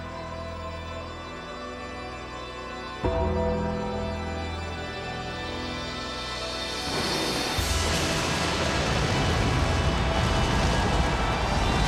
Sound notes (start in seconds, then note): 6.8 flames roaring; 8.8 audience cheering